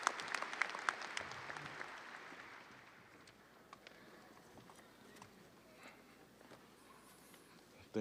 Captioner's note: audience applauding; audience cheering